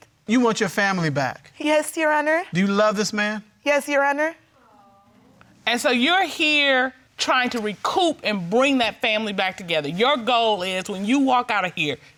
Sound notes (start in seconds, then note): 3.6 audience sympathizing